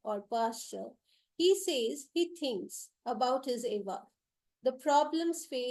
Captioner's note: non-english